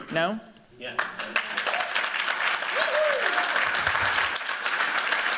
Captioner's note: applause